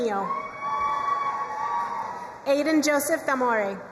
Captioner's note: crowd cheering and applauding